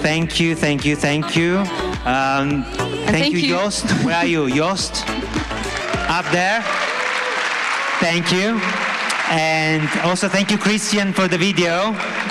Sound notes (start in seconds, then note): 2.1 applause